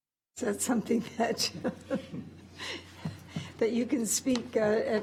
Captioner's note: laughs